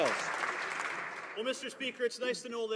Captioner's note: some Applause